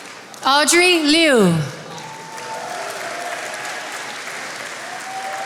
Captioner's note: attendees applauding